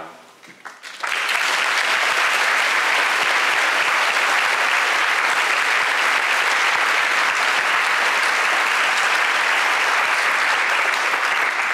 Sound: applause

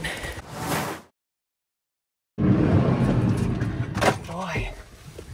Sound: screen swooshing

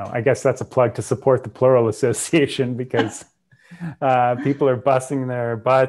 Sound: chuckles

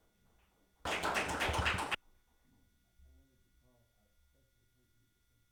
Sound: audience applauding

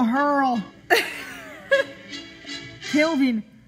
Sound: laughs

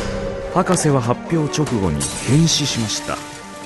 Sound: man groans, glass breaks

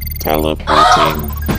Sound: computer Voice

